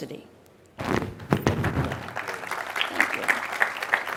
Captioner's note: applause